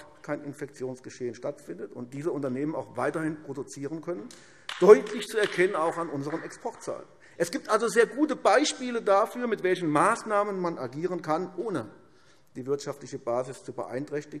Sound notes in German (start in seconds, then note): 6.4 Beifall AfD